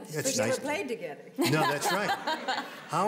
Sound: laughs

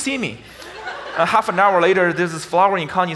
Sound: audience laughs

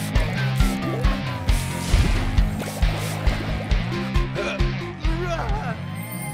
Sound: spraying

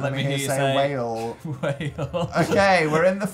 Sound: laugh

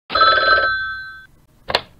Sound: phone rings

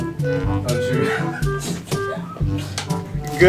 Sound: laughter

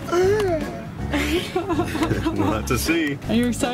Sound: gasps; laughs

